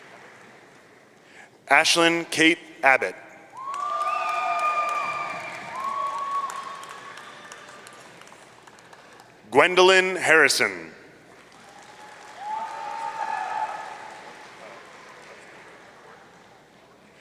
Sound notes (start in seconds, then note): 3.6 audience cheering; 11.6 audience cheering